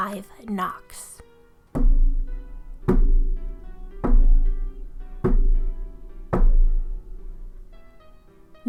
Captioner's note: knocking sounds